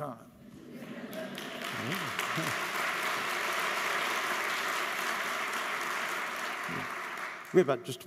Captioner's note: laughter